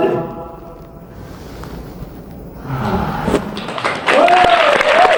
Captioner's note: inhale